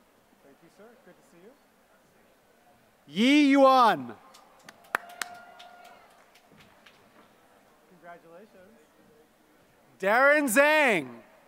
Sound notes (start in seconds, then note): 4.2 applause